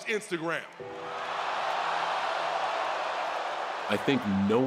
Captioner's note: crowd roars